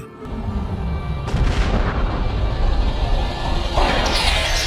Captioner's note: bomb exploding